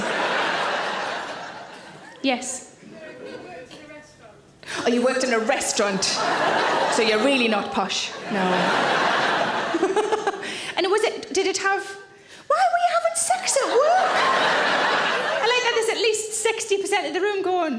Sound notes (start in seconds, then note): 0.0 audience laughs; 8.0 audience laugh; 9.7 Sarah laughs; 13.6 audience laughs